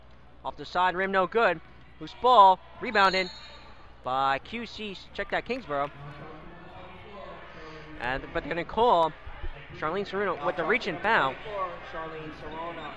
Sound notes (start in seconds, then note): 2.9 whistle blows